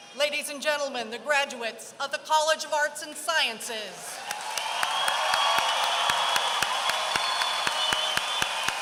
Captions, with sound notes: Ladies and gentlemen, the graduates of the College of Arts and Sciences. [APPLAUSE]